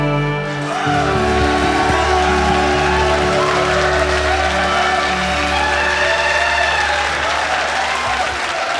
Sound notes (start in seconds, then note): 3.6 audience cheers and applauds